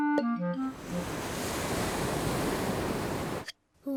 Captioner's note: waves crash and swoosh